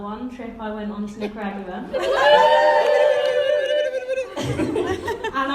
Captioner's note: whooping and beeping